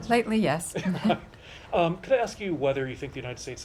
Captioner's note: laughter